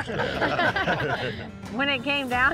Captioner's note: laughter